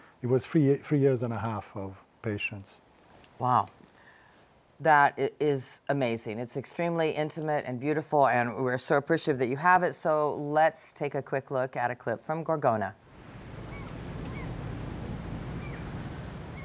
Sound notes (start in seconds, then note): 13.6 seagulls crying